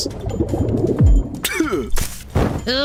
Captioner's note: boiling sound; spit sound